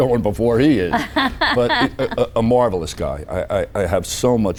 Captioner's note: laughing